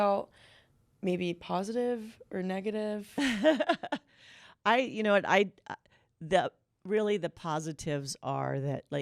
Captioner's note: laughter